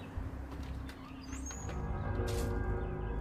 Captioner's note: door creaking; ominous music continues